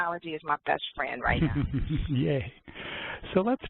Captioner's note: laughs